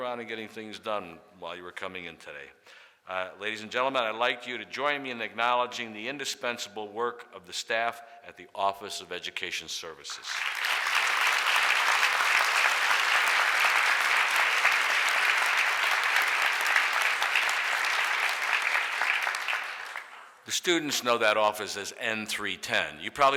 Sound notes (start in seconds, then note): 10.2 audience applauds